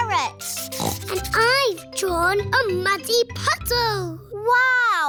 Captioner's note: snorts